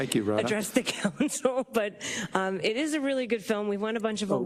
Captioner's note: laugh